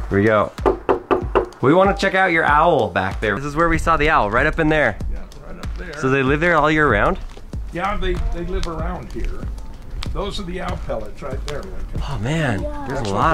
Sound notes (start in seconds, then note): 0.6 knocking